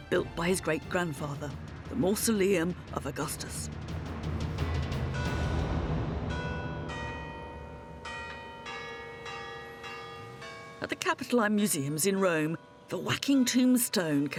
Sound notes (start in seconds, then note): 6.3 bells ringing